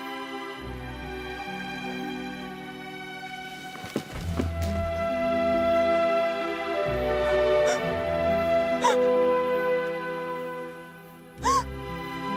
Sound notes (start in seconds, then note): 8.8 Menangis